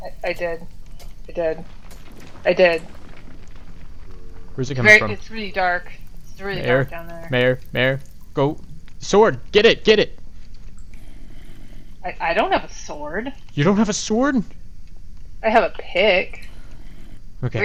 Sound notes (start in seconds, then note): 0.1 stompy; 12.0 stompy; 16.3 stompy